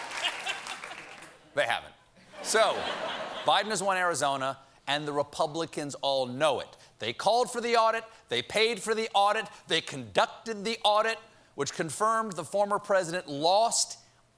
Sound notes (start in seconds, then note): 0.0 cheers and applause; 2.2 laughter